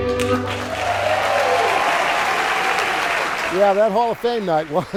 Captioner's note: audience applauding